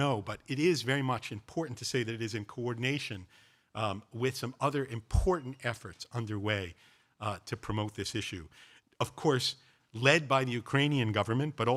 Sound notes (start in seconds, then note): none